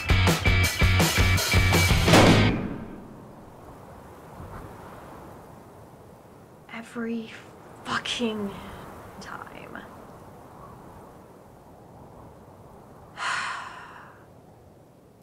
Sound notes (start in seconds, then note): 3.7 gunshot; 15.0 frustrated sigh